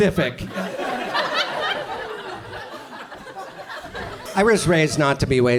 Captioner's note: audience chuckles